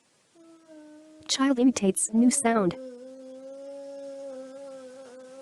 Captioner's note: boy humming